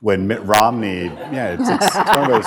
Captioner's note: laughter